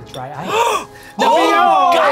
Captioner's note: gasping